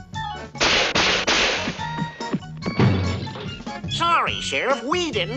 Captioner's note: gun firing